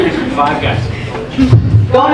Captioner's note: audience laughing